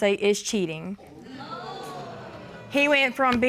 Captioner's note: audience exclaiming